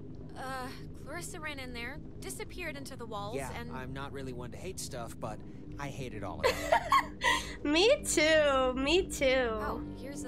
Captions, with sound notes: [Laughter] me too me too